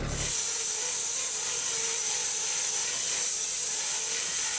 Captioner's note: electric saw screeching